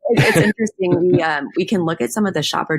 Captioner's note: both laugh